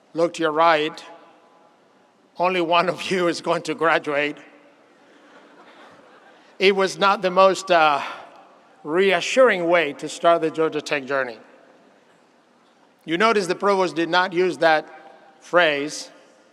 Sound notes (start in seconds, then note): 5.0 audience laughs